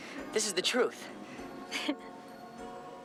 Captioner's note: giggles